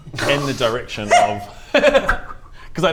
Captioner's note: pathetic squeak